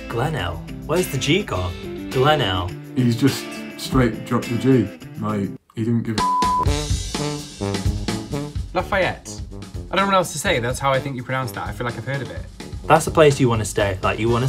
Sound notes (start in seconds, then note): 6.2 beep; 6.8 upbeat music